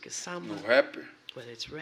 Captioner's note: speaking portuguese